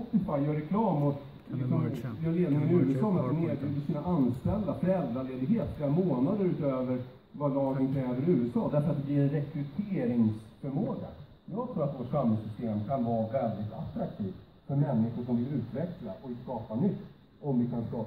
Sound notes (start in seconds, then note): 1.7 speaking in foreign language